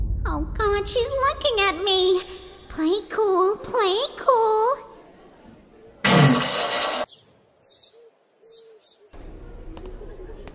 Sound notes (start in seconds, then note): 6.0 toilet sounds; 7.5 innocent birds tweeting